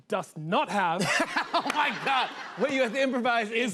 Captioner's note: laughter